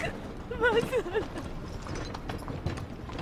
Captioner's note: crying